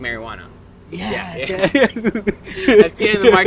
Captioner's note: laughs